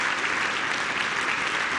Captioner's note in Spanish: aplausos